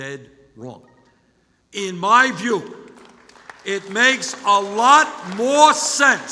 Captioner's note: applause